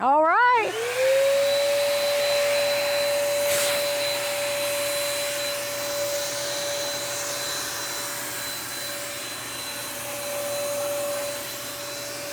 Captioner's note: power tool humming